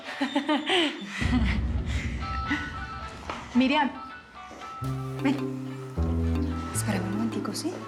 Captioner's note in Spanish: risas